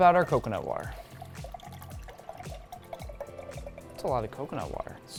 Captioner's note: cheerful upbeat music; water splashing